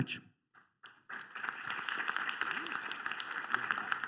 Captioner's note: applause